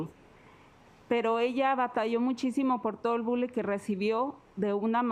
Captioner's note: speaking Spanish